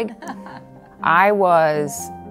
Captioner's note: laughs